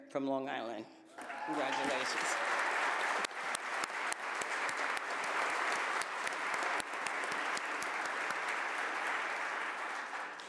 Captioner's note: applause